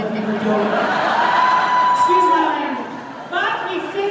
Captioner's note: audience Laughter